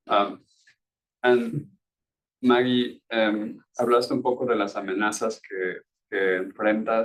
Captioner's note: speaking Spanish